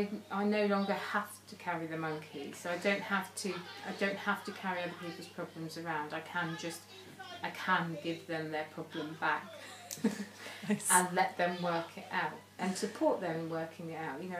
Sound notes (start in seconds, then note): 9.2 laughing